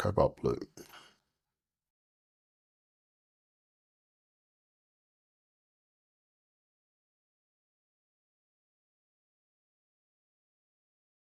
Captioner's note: silence